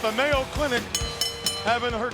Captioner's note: bell ringing